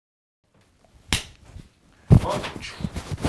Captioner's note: hand clapping